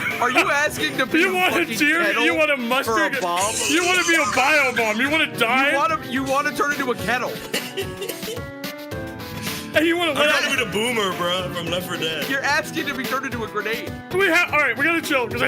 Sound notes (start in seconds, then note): 7.3 laughs